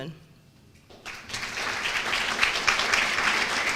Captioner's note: applause